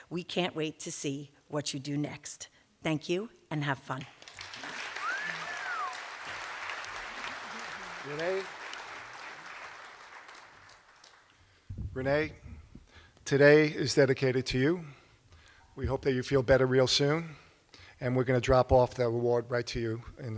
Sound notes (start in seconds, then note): 4.3 cheers and applause